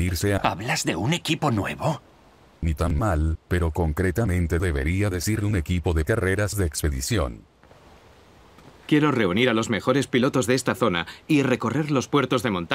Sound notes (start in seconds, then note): 4.4 in Japanese: "A expedition racing team?"